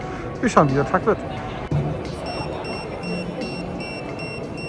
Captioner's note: peep